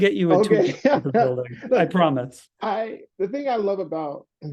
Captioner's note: laugh